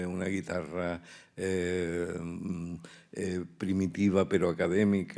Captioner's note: speaking in Spanish